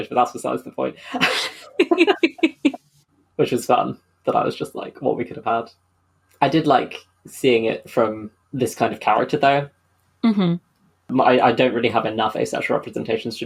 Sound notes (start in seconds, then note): 0.8 laughs